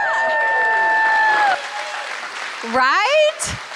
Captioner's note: applause